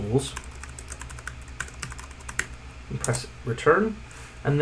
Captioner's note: keyboard clacking